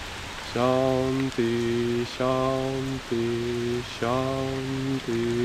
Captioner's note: chanting "Peace" in Sanskrit